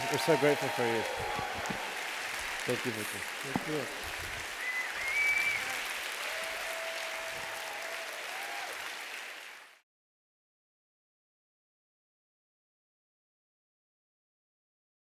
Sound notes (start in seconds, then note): 2.0 applause; 4.8 applause